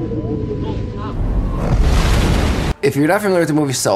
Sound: water splashing

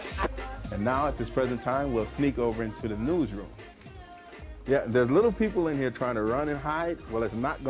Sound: laughter

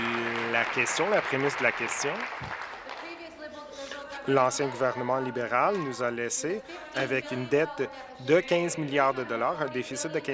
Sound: applause

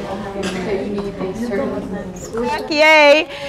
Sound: students chatting

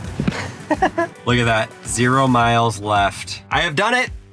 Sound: laughs

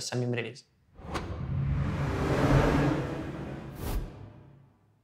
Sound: swoosh transition sound

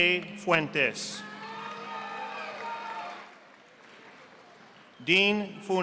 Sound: audience applauding

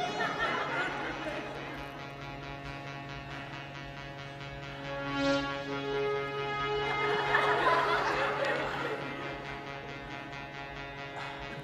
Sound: laughter and music

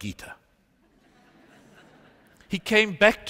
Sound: laughter

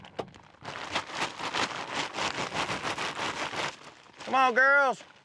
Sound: crinkling bag

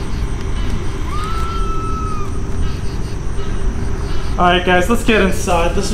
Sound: girl screams

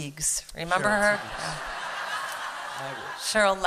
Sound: laughter

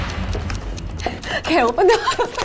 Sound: giggling

